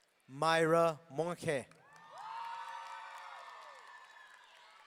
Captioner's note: audience cheering